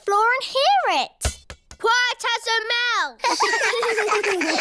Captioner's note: thud; laughter